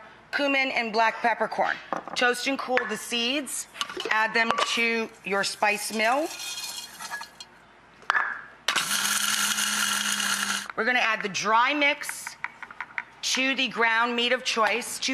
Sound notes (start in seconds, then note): 8.7 grinding